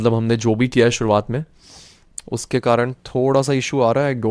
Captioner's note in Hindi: नाक से की जाने वाली आवाज़